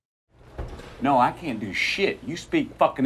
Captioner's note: object shuffles